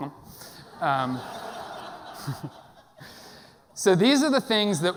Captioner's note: audience laughing